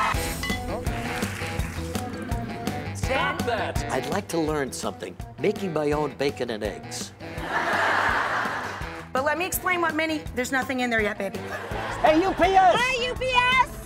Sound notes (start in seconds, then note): 0.1 jazzy music; 7.3 crowd laughing